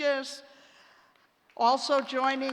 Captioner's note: applause